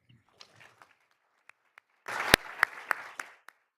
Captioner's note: all applauding